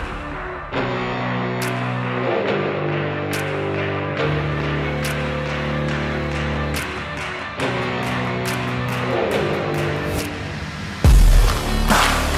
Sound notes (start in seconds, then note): 0.3 Tepuk tangan